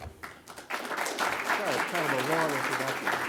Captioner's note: applause